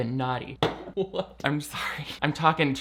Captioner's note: can thudding